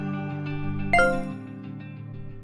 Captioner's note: intro music; ping noise; intro music fades